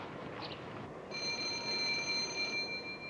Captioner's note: telephone rings